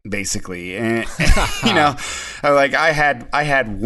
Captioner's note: all laugh in unison